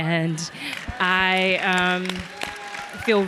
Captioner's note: audience clapping